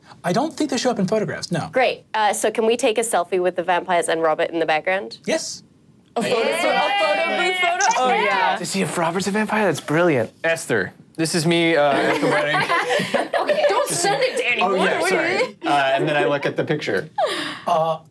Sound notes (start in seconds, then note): 6.2 all cheering